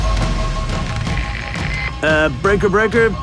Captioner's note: radio